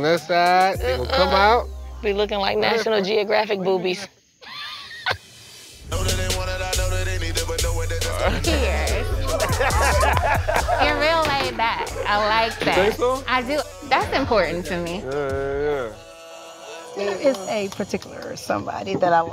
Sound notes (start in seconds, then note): 4.4 laughs; 9.1 laughter